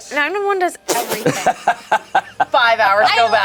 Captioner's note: group laughs